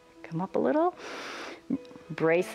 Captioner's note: inhales